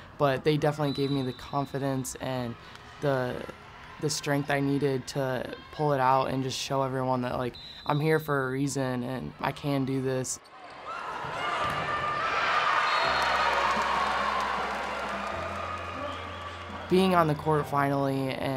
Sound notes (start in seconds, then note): 10.5 crowd cheering; 12.8 whistle blowing